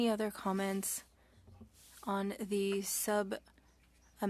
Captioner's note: speaking French